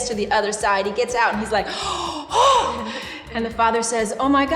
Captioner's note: gasping